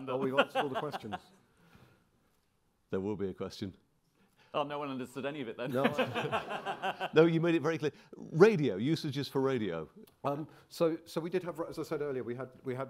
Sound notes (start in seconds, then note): 5.6 all laughing